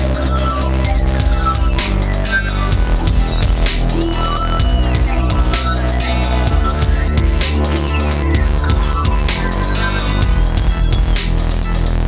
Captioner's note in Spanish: Ruido de motores-gente gritando